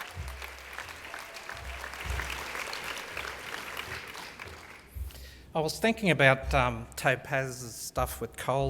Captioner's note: applause